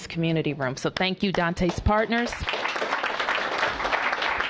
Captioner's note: applause